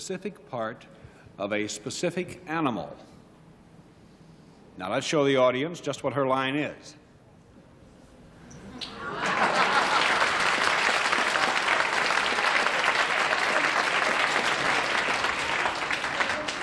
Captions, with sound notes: does something to a specific part of a specific animal. Now let's show the audience just what her line is. [laughter, applause]